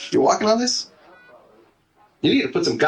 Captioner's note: heart monitor